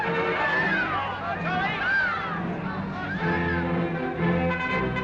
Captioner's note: people cheering; crowd chattering; brass fanfare